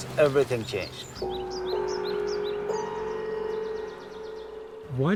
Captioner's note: bells chiming